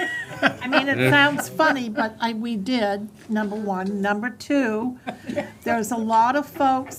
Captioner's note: laughter